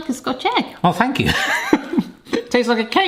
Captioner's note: laughs